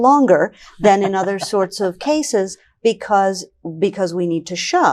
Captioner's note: laughing